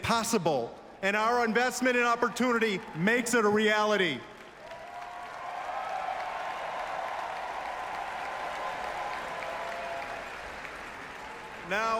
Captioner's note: applause